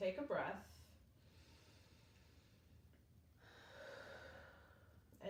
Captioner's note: breathes deeply